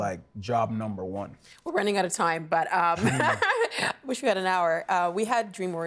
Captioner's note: laughs